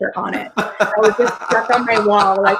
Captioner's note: laughs